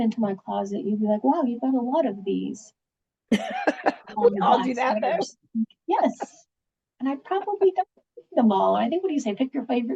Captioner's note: laughings